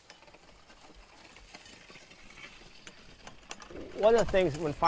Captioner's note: farming noises